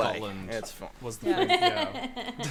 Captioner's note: laughter